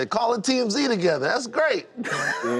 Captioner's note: laughter